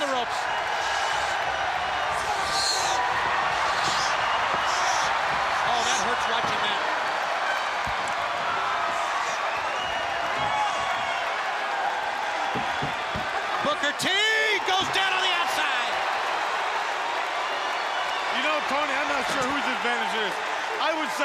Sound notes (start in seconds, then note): 0.1 crowd cheering; 16.1 crowd cheering